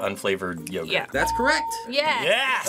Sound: ding

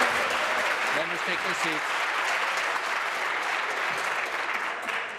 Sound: applause

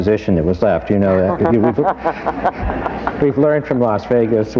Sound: laughter

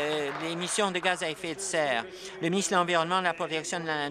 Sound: applause

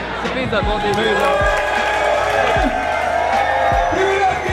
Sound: crowd cheering

